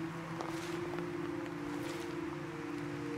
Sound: foot steps crunching on leaves

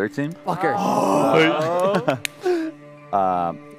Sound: laughter

